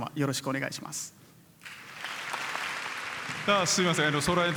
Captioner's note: applause